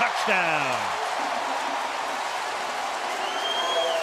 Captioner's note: cheering